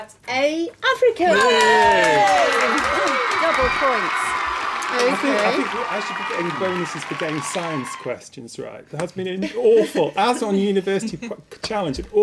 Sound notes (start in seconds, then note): 1.3 cheering sound effect